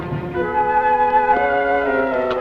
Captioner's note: taps